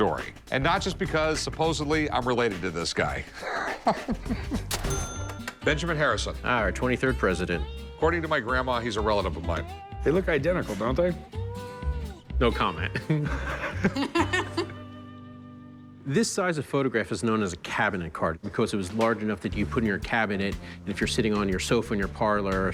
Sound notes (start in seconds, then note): 3.2 laughs; 12.8 laughs; 12.8 Corey chuckles